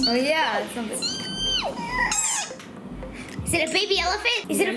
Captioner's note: squeaks